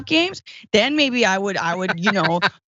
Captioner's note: laugh